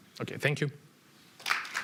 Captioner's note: applause